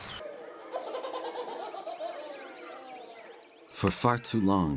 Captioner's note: child laughing